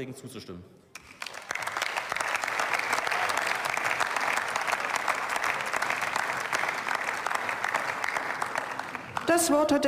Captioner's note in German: Beifall